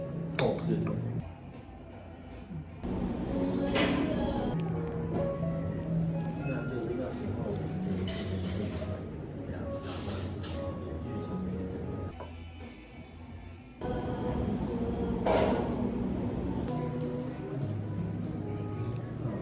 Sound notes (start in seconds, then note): 0.4 cup clanks on saucer; 2.8 bustling of the restaurant sounds; 12.1 song of the art space hums